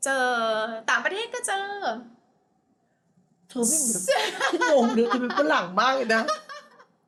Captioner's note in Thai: เสียงหัวเราะ